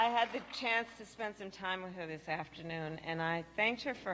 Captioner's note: applause